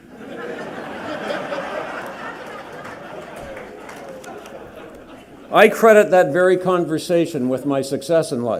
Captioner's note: laughter